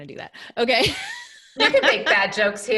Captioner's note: laughing